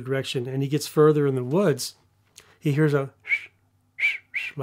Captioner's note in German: Pfeifen